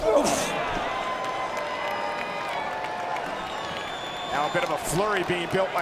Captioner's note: crowd cheering